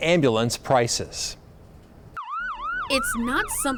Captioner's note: ambulance siren wails